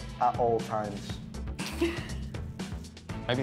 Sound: laughs

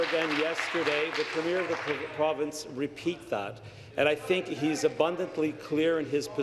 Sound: applause

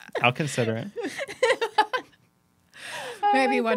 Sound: laughing

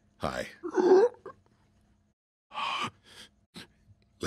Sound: croaking

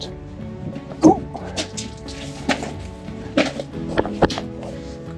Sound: stones crunching

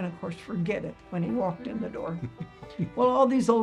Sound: chuckling

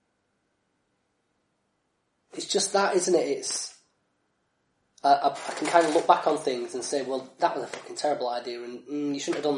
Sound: laughs

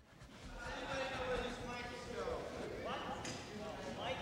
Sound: indistinct chatter

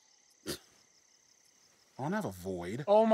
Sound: scoffs

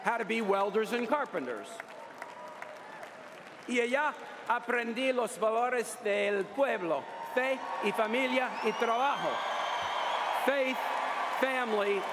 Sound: cheers & applause

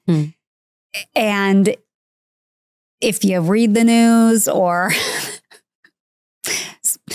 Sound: laughs

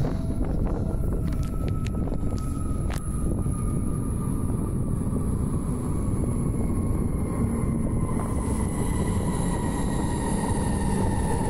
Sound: train Screeching and Braking

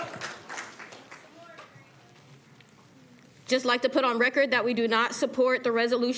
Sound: cheers and applause

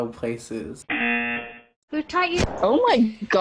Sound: buzzer rings

